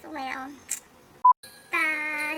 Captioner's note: beep